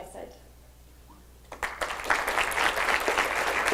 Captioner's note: applause